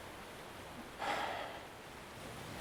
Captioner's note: sighs